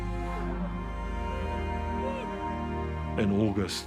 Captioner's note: warriors yell